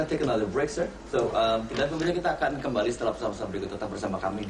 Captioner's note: speaking indonesian